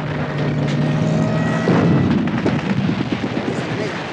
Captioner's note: explosion; gunfire continues